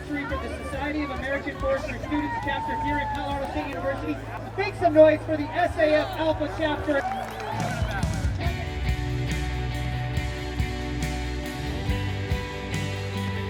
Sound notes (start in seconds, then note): 5.6 clapping and cheering; 10.1 light-hearted music